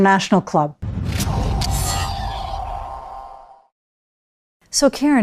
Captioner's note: logo whooshing